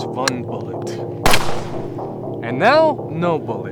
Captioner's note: gunshot booms